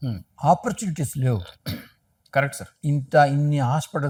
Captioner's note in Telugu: గొంతు సవరించుకోవడం